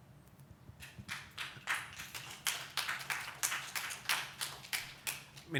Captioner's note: light audience applause